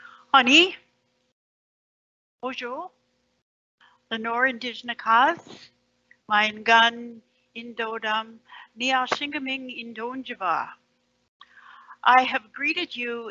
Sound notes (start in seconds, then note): 0.8 Indigenous Language